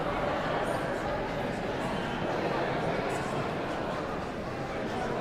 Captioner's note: audience chattering continues